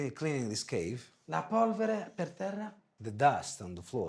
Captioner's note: speaking foreign language